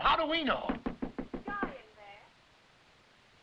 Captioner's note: knocking